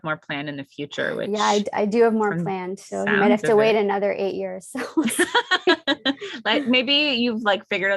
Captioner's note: laugh